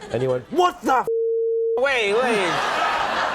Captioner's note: beep; audience laughs